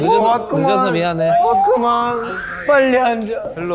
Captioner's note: whoosh